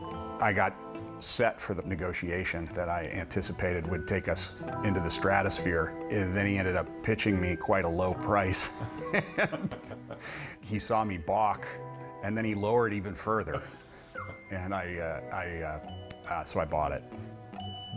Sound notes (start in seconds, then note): 8.8 chuckles; 13.4 laughing